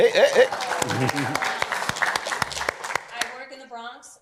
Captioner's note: applause